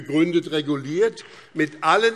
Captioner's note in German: Beifall BÜNDNIS 90/DIE GRÜNEN